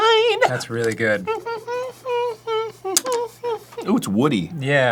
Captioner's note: humming the praise of a good amber grade maple syrup